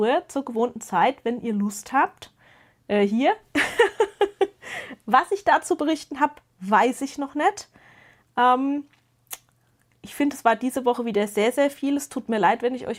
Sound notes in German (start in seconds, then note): 3.5 gelächter